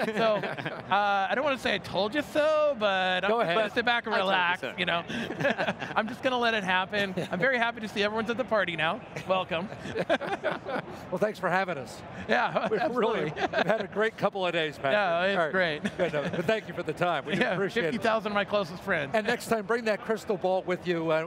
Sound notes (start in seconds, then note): 5.0 laughing